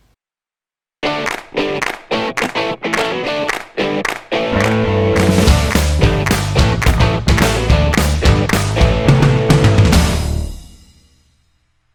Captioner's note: claps